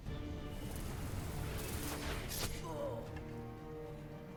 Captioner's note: electric crackling